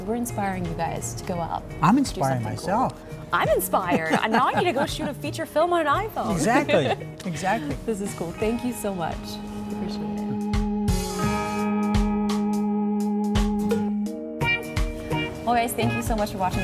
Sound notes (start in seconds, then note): 3.3 laughing; 6.2 giggling; 10.3 funk music